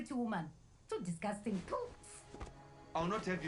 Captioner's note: spits